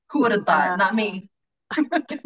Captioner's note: laughing